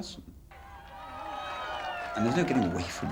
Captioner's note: crowd cheering